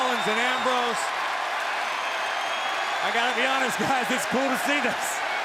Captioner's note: applause